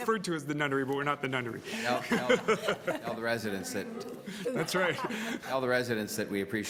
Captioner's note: laughter